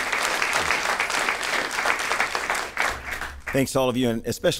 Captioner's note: applause